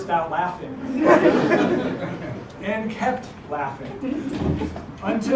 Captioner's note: laugh